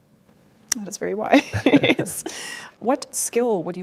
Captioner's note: laughs